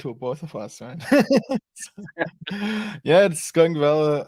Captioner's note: laughs